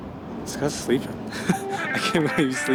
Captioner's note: chuckling